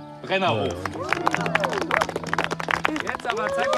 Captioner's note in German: Applaus